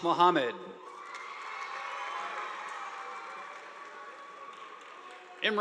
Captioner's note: audience applauding